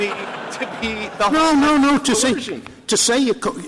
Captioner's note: laughter